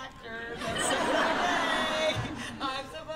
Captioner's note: laughter